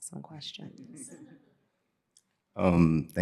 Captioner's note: laughter